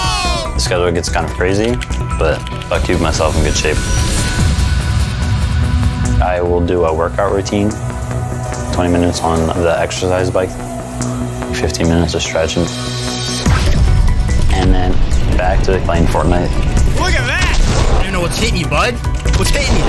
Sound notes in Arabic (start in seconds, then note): 13.3 صوت نقر على لوحة مفاتيح الكمبيوتر وأجواء لعبة Fortnite